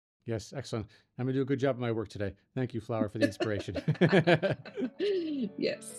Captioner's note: both laugh